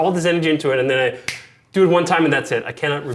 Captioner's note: fingers snap